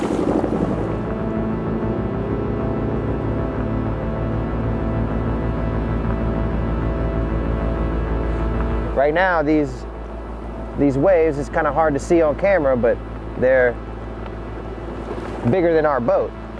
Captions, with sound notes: (engine whirring) Right now, these waves, it's kind of hard to see on camera, but they're bigger than our boat.